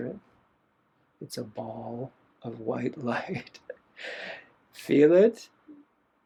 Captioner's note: laughter